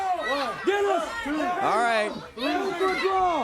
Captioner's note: crowd chatter